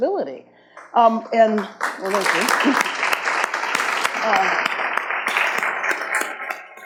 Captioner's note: audience claps